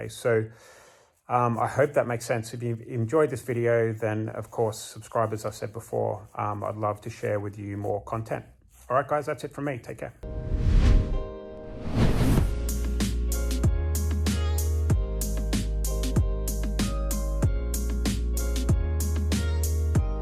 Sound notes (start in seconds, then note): 11.5 air swooshing; 12.9 upbeat music